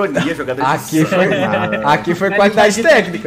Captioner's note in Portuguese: risos